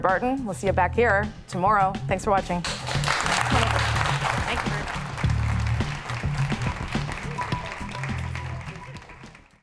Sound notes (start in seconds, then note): 5.4 applause